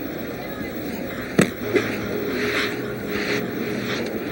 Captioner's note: stick thuds